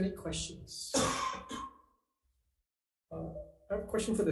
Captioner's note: audience coughs